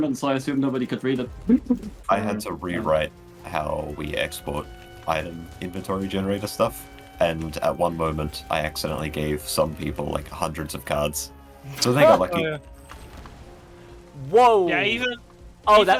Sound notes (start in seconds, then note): 1.4 laughs in German; 11.7 laughs; 13.4 loud in-game explosion